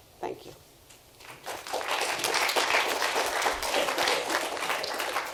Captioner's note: applauding